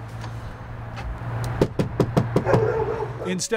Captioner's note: hand knocking